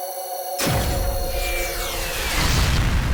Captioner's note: missiles fires; ship explodes